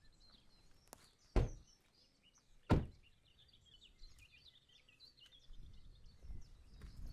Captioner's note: birds chirping; car door closing